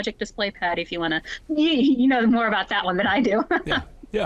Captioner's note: chuckles